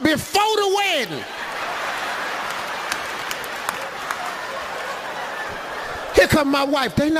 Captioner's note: audience applauding; audience laughs